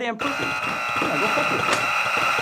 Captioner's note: buzzing many times